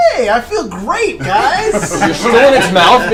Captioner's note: all laugh